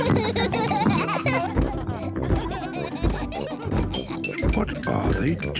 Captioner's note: giggling continues; thumping; kids giggling